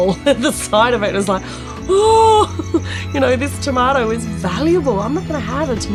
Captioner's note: laughs